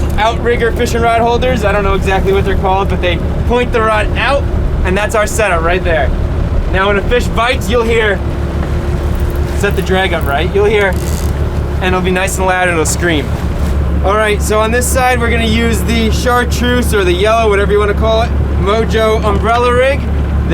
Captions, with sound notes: outrigger fishing rod holders i don't know exactly what they're called but they point the rod out and that's our setup right there. Now when a fish bites you'll hear, let me set the drag up right, you'll hear (Clicking) and it'll be nice and loud and it'll scream. All right so on this side we're going to use the chartreuse or the yellow whatever you want to call it, mojo umbrella rig